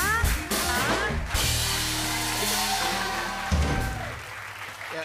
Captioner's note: cheers and applause